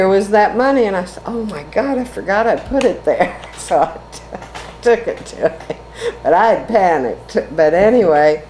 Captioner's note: laughs